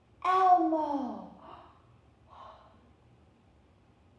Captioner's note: gasp